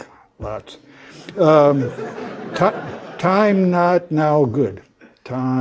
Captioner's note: laugh